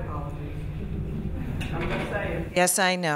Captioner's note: laughing